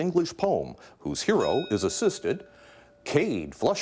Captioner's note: bell dinging